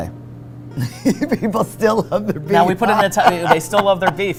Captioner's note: laughs